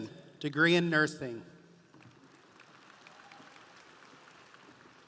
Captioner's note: audience applauding